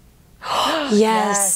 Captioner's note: gasps